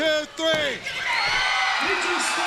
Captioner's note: crowd cheering